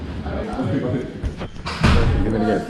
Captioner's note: people chattering